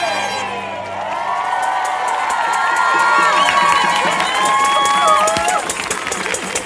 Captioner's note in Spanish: Aplausos y vítores